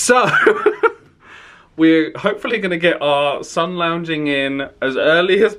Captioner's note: laughs